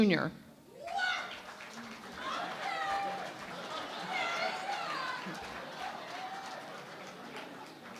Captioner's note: cheering and Applause